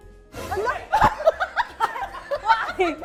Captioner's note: laughs